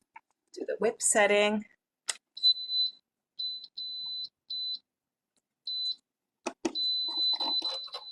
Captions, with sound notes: Do the whip setting. (mixer beeping)